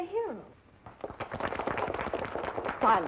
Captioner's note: applause